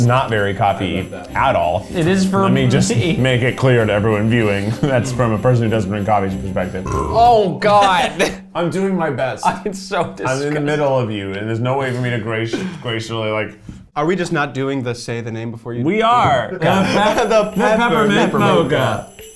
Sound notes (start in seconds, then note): 6.8 burps